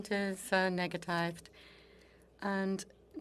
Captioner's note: speaking French